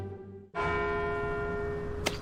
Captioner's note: farmers bell